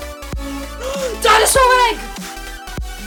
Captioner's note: inhale